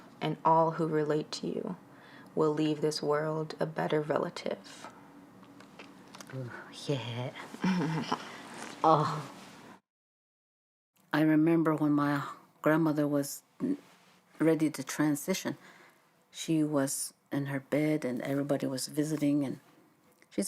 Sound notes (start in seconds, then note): 7.5 daughter chuckles softly